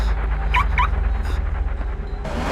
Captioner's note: car alarm chirps